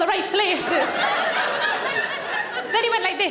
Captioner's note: audience laughing